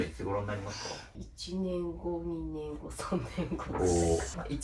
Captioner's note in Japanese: 鼻息